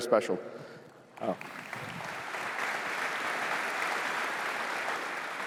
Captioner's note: applause